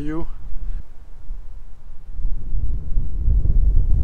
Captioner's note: wind blowing